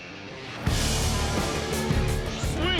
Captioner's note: horn honks